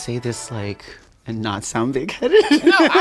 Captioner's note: laughs